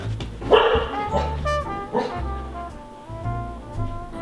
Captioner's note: Logan barks